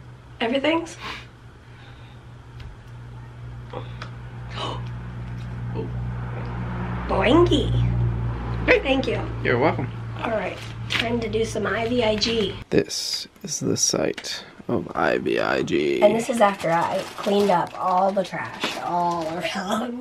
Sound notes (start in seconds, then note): 3.7 gasps; 3.9 mask snaps